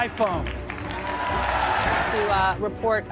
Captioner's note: audience cheering